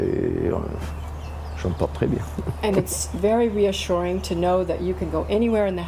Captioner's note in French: rires